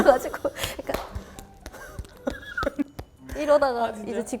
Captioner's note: clap clap clap